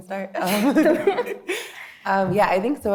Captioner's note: all laughing